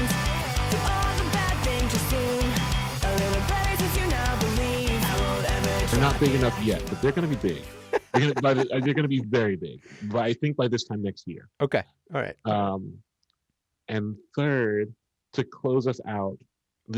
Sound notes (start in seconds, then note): 7.4 chuckles